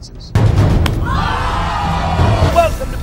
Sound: smack; audience screaming

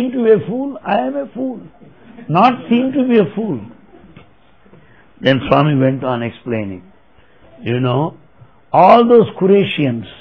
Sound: laughter

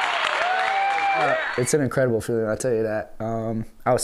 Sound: applause

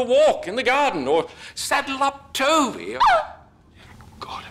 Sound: cries out

